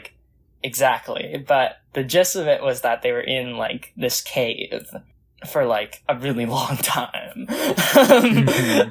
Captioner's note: laughs